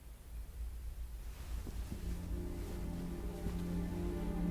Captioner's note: sheet rustling; soft dramatic music